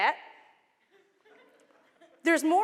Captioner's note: laughter